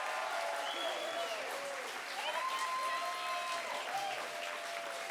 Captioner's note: audience cheering